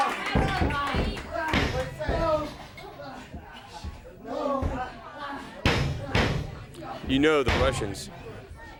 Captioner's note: crowd cheering